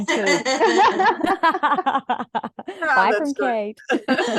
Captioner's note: everyone is laughing